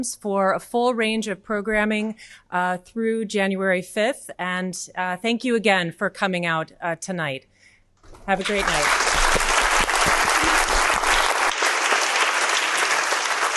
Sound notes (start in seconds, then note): 8.2 audience applauding